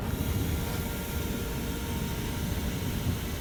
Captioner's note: steam hiss